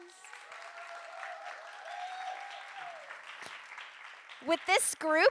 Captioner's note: audience cheering and applauding